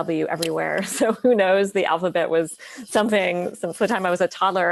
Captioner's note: laughs